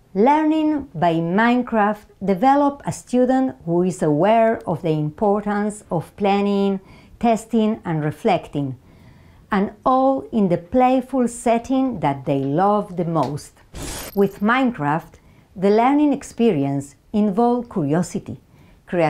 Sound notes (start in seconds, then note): 13.7 graphics screeching